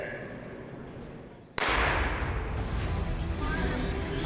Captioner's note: starter pistol shoots; energetic strings music